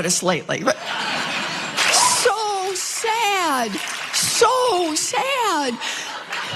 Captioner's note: laugh